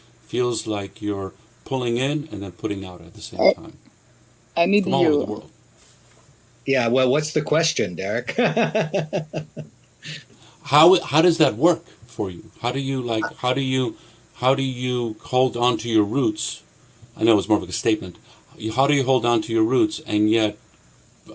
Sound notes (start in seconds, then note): 4.8 speaks in French